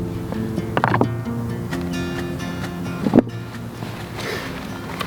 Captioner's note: stones knocking